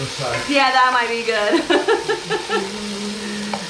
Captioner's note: giggling